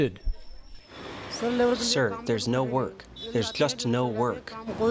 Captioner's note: through translator